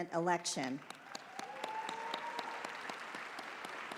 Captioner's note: applause